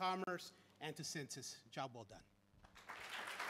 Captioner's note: applause